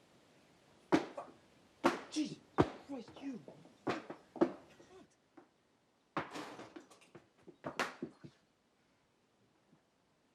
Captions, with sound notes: - Fuck, Jesus Christ. (birds chirping)